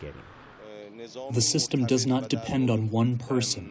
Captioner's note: through translator